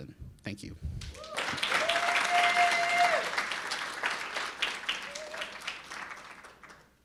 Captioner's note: audience cheering and applauding